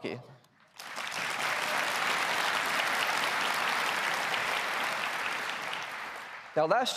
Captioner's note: applause